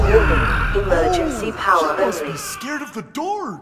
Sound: terrified screaming

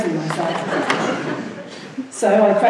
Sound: laughing

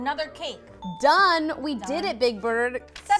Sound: ding

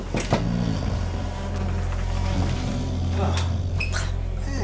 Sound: knock on door; flies buzz; snores; hisses

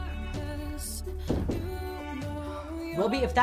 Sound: knocking on door

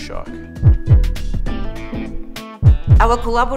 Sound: heart beat

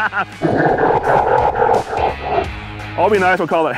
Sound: laughing; evil laughter

